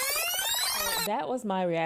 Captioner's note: record rewinding